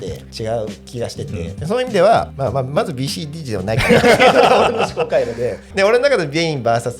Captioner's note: laughs